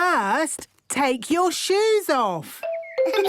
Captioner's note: giggles